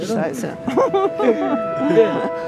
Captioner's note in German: Lachen